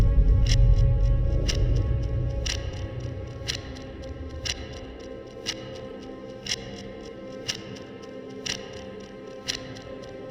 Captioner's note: ticking